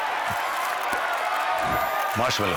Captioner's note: in hindi